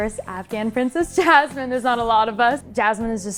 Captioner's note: laughing happily